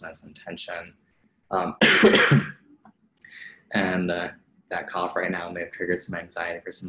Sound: coughs

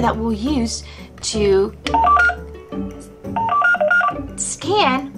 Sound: beeping

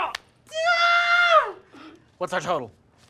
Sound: screams

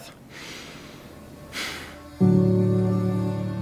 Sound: inhales; gentle music

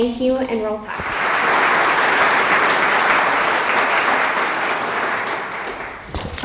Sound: applause

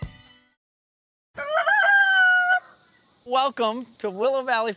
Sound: rooster crows

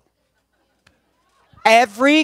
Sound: laughter

